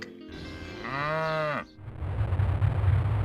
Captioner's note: moo